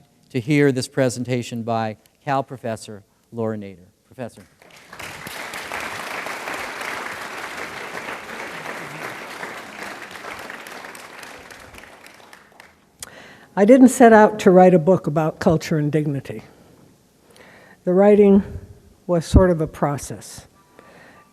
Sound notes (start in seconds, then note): 4.4 applause